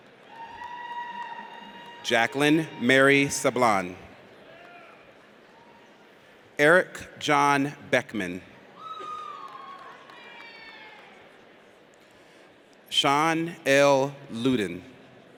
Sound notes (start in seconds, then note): 0.2 audience cheers; 8.8 audience cheers